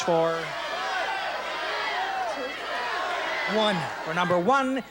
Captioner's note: audience yelling